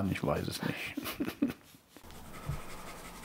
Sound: laughter

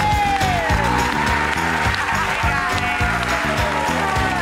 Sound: applause

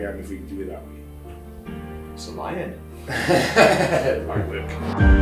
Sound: laughs

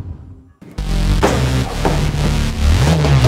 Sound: Bangs on locker

